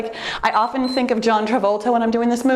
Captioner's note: timer beeps